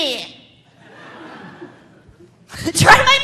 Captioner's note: audience laughing